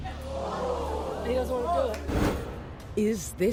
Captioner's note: audience moaning